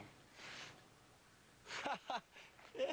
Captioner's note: laughing